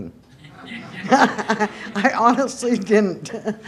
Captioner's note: laughter